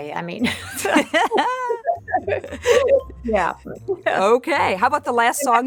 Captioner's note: Susan and Nancy laugh